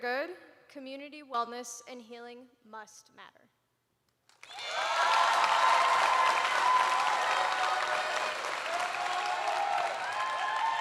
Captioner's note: cheers and applause